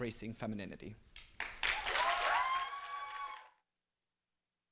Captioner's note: applause, cheering